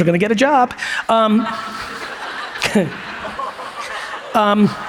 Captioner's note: audience laughs